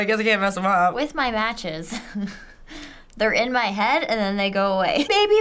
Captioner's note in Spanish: risas